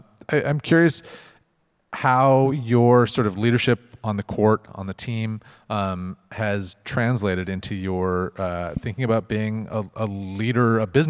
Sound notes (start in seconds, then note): none